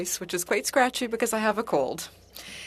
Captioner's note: speaking French